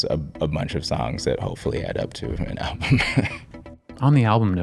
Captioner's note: chuckling